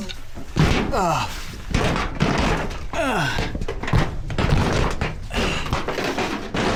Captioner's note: metal bangs